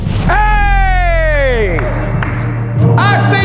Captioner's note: dunk sound; cheers